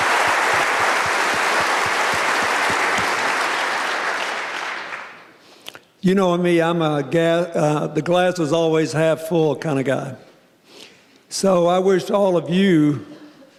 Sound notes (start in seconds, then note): 6.1 applause